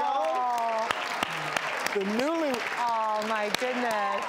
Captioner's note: audience applause